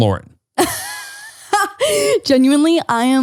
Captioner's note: laughs